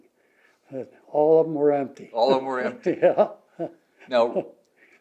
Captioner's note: laughs; laughs